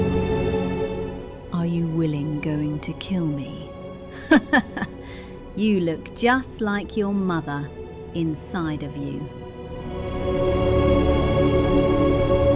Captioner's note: laughs